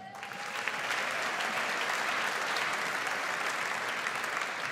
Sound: audience applauds

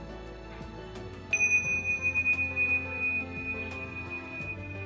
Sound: bell chiming

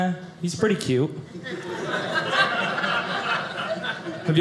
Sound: audience laughing

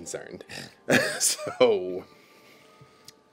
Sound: laughs

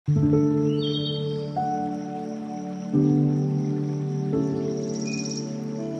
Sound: gentle music; birds singing

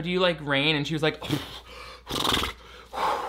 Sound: huffing; blowing raspberries

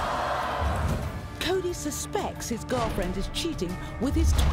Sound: voiceover

